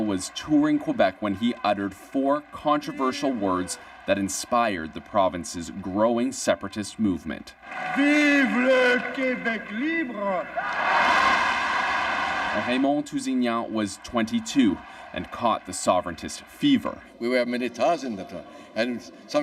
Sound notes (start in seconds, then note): 15.7 cheers and Applause